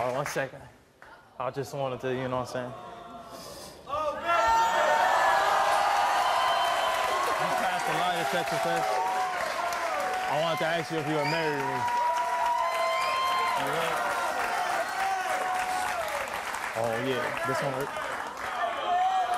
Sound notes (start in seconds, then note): 3.3 audience yells and cheers; 13.0 audience whistles and cheers